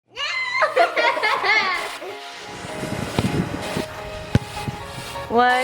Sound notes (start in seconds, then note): 0.3 kids laughing; 2.7 upbeat music